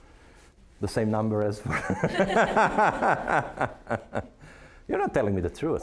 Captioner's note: all laughing